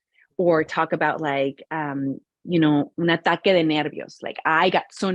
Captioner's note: speaking in Spanish